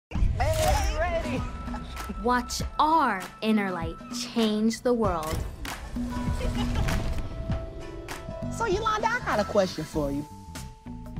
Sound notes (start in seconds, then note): 6.2 laughter